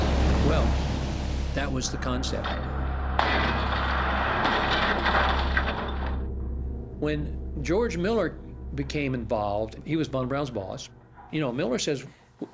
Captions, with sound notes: Well, that was the concept. (metallic clanking) When George Mueller became involved-- he was Von Braun's boss-- you know, Mueller says,